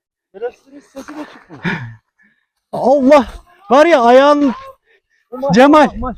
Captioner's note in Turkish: kahkaha